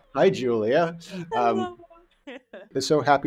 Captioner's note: laughs